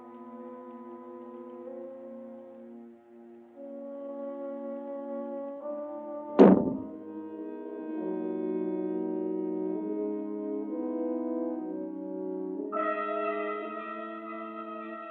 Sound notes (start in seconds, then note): 6.4 muffled boom; 12.7 ominous music